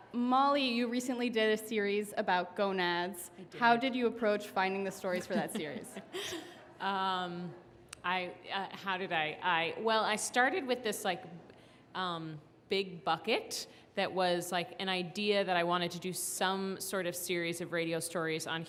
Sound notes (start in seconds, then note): 5.1 laughs